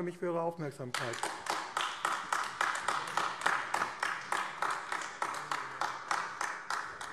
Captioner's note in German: Beifall AfD